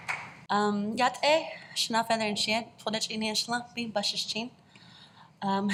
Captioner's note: Speaking in Dené